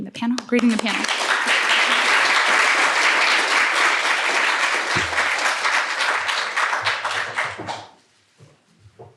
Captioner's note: applause